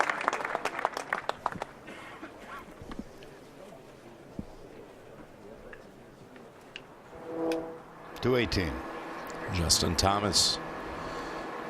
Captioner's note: applause